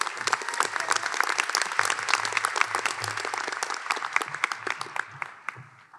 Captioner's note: applause